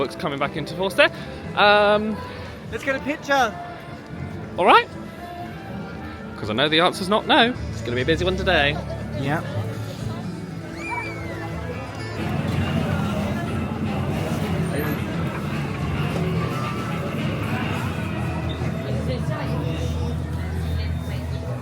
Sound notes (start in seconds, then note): 10.9 gentle music; 10.9 guests chattering; 17.5 loud music thumping